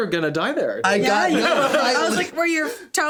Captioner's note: all laughing